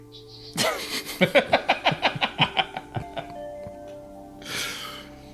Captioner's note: laugh